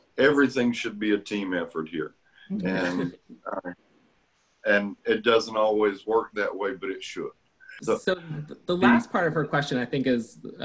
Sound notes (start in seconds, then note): 2.8 laughter